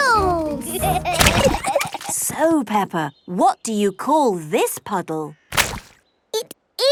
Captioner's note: giggling